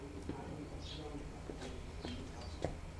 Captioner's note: birds chirping